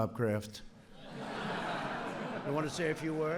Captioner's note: laughter